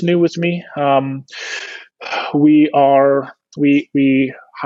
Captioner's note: huffing